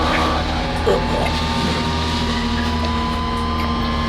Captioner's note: screaming